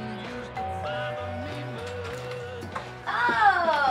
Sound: doorbell rings

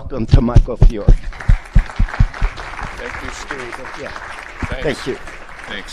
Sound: crowd clapping

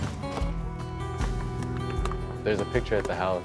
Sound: balls bouncing

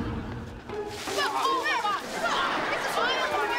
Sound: arguing

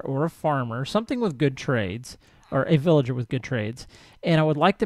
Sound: chattering continues

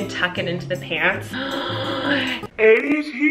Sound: gasps

